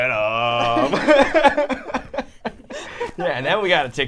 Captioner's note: all laughing